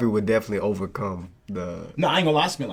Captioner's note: none